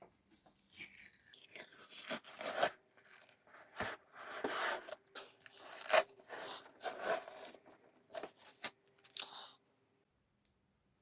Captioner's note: tape peeling sound